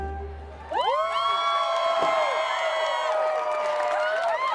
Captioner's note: crowd cheering